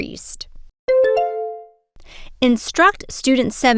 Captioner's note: bell ding